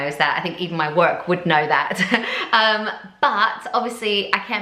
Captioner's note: chuckles